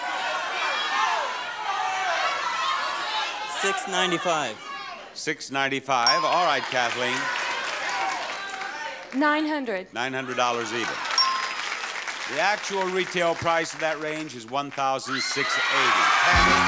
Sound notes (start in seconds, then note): 0.0 crowd shouting answers; 10.4 applause; 11.2 ding